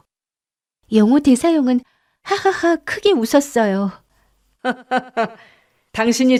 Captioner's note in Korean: 웃음